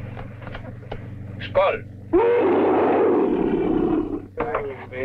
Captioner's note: Pete roaring